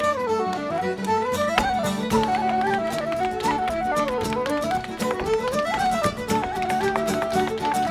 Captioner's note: shoes rhythmically tapping; bright music